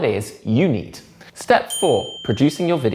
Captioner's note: bell dings